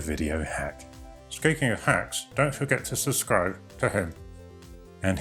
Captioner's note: puppet voice